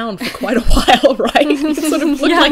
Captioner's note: hosts laugh